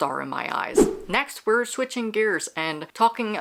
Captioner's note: whoosh